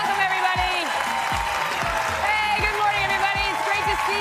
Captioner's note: applause